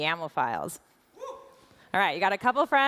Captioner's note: audience members whoops